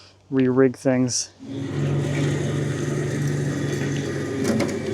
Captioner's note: trailer whirring